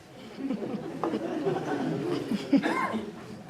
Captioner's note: laughter